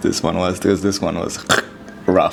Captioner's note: dying-noise